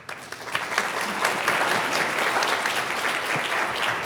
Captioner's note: audience applauds